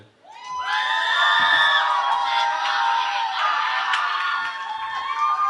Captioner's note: cheering